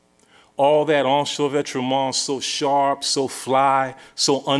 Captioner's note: non-english speech